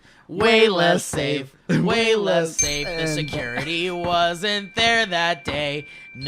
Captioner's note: ding